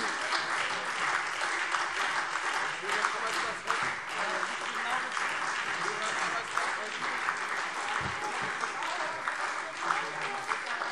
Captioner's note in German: Beifall SPD und Freie Demokraten